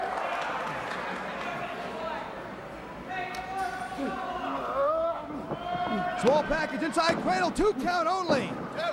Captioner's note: crowd chatter